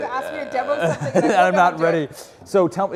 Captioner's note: laugh